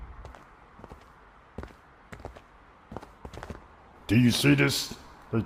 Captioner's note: footsteps fall